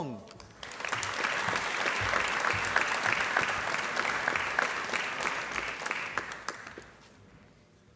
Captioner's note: applause